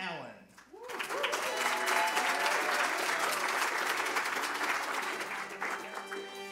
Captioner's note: applause; upbeat music